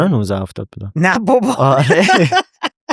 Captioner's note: laughs